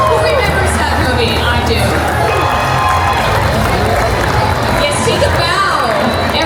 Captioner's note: applause